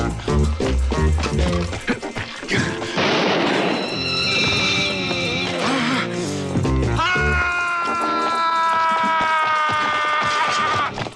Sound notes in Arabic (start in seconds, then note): 3.0 إطلاق نار; 6.1 يلهث; 7.0 يصرخ المهاجم